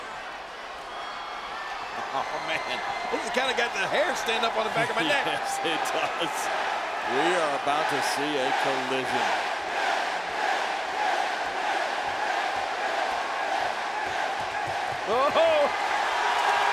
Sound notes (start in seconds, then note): 9.6 crowd chants "Yes"; 16.5 crowd cheers